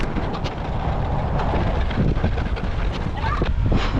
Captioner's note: wind blowing